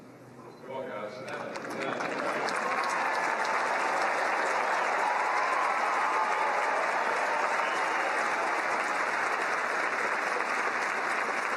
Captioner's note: cheering and Applause